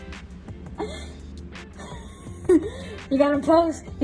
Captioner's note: laughs